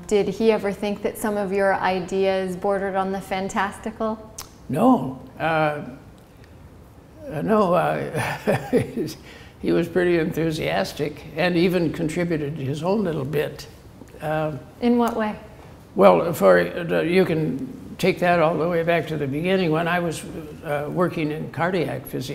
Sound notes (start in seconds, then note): 8.2 laughter